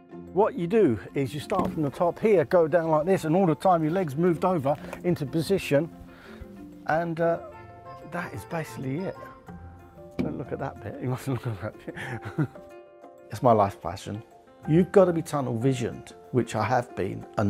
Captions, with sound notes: What you do is you start from the top here go down like this and all the time your leg's moved over into position... and uh - that is basically it. Don't look at that bit, you musn't look at that bit. (laughs) It's my life's passion. You've got to be tunnel-visioned - which I have been